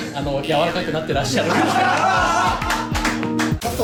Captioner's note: laughs